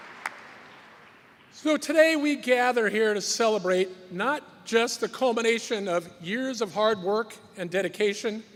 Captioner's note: cheers and applause